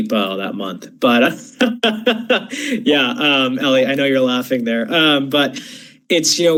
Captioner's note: laughs